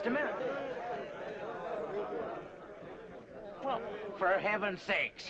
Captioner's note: crowd chattering